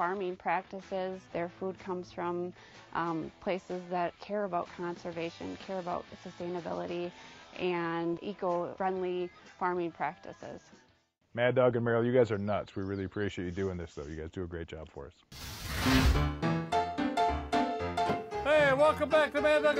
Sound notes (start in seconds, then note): 15.3 flame blazing; 16.2 jaunty piano music